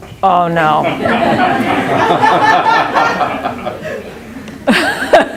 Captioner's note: all laughing